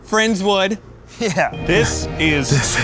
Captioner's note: laughing